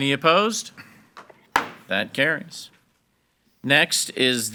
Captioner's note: gavel bangs